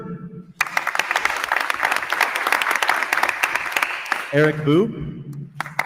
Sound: attendees applauding

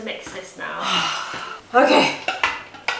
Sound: sighs

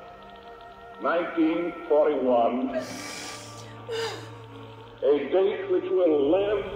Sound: Kate crying

